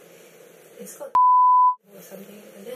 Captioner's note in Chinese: 哔哔声